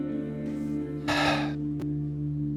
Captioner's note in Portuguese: suspiro